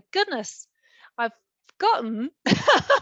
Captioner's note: laughing